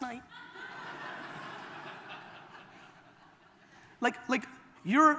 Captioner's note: audience laughter